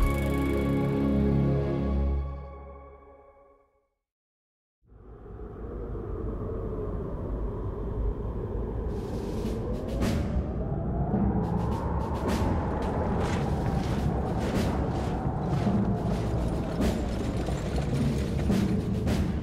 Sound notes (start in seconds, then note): 3.8 marching drumbeat; 5.0 wind blowing